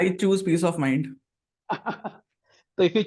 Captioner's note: laughs